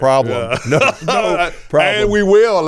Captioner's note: laughing